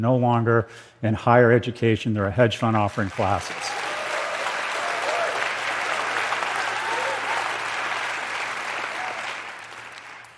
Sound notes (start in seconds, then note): 3.0 cheers and applause